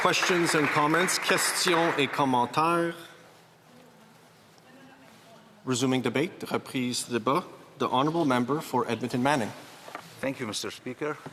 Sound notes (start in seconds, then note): 2.3 speaking alternate language